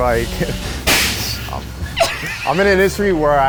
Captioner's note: something thudding